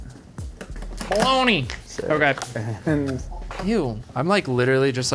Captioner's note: toy skateboard clacking